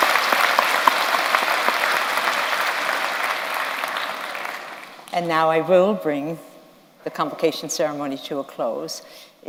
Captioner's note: applause